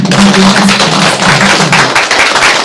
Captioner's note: applause